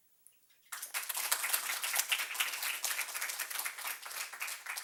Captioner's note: group applauds